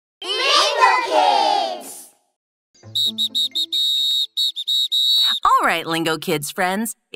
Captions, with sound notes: [Billy whistles] Alright Lingokids friends,